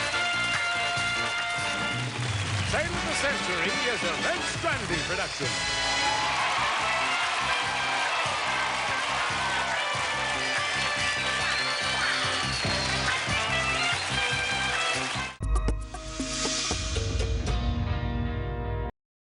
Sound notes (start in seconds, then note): 4.0 applause; 4.0 theme music playing